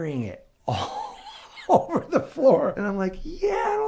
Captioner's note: laughing